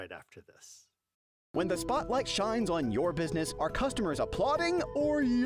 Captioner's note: voiceover